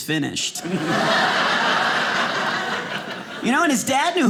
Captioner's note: audience laughing